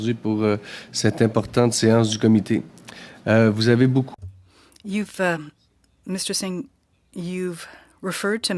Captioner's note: speaking French